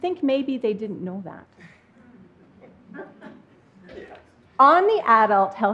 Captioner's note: chuckles from the audience